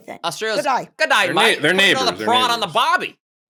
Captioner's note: australian accent